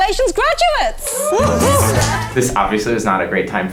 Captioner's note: everyone cheering